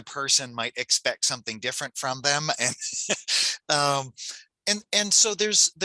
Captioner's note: laughs